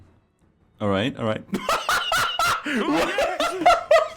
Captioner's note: laughing; bursts out laughing